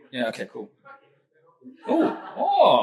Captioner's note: audience laughs